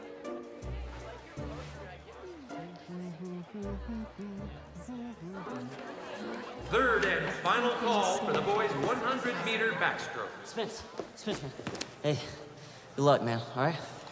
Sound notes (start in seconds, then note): 0.1 curious music; 2.6 Spencer humming